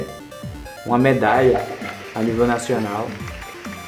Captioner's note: applause